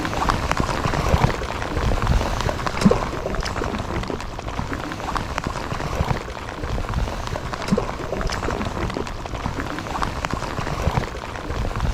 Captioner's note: sound of rain on water